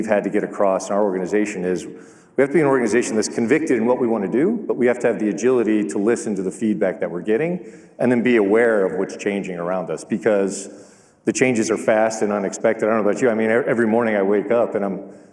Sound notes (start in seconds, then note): none